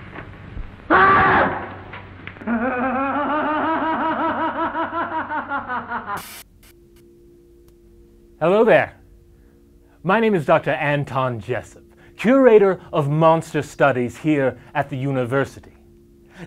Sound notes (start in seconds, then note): 0.9 scream; 2.4 scared laugh